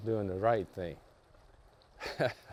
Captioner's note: chuckels